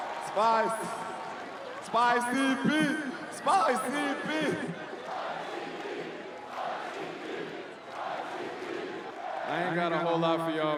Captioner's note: cheering and Applause